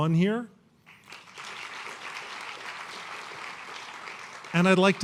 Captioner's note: applause